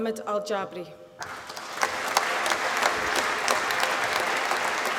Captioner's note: applause